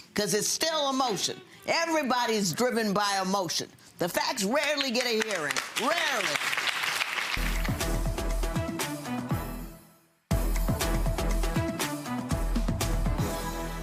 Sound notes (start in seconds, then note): 6.3 audience clapping; 7.3 upbeat music